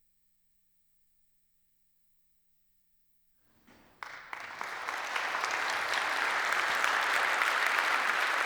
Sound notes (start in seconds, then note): 3.7 applause